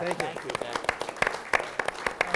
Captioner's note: applause